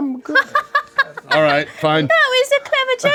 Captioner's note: laughing